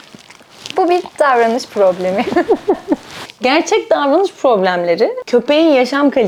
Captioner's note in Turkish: kahkaha